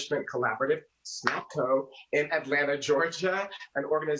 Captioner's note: snaps fingers